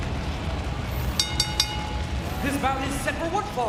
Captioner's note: bell rings